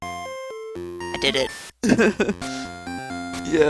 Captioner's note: laughs